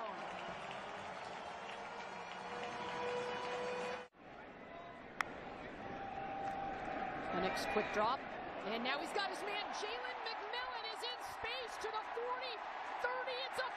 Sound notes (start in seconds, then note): 0.0 applause and siren; 3.8 crowd noise